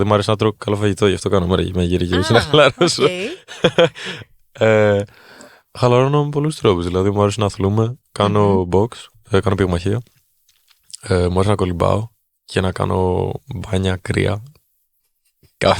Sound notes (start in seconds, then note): 3.9 chuckles